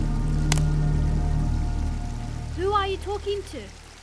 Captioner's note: branch cracks